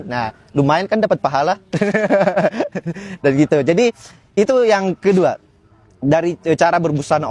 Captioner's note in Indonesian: tertawa